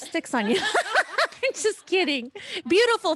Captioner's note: laughter